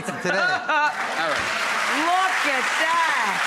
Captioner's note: laughing; applause